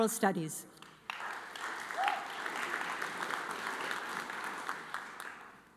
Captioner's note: audience applauds